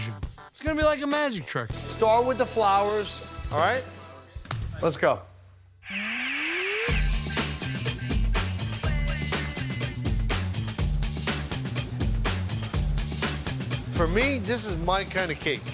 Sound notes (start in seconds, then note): 4.0 claps; 5.7 upbeat music